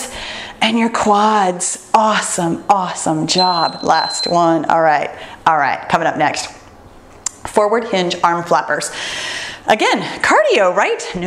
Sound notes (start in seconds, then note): 3.3 timer beeps